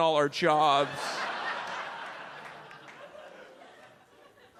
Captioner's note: audience laughs